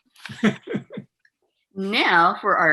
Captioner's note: laughs